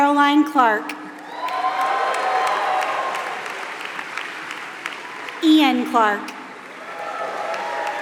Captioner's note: applause